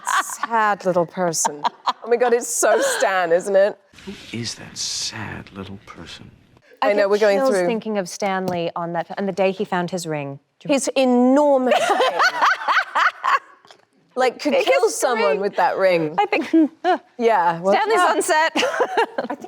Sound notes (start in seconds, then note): 11.7 Anne laughs cheerfully